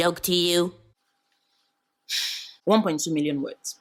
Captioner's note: sigh